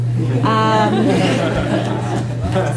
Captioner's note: group laughs